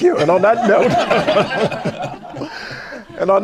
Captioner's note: laughter